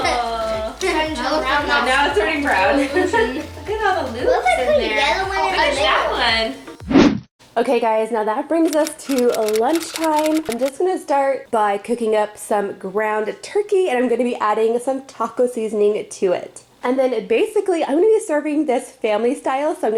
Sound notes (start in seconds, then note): 2.5 laughing